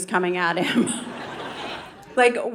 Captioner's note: audience laughing